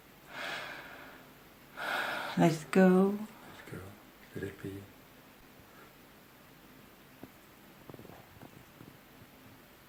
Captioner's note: taking a big breath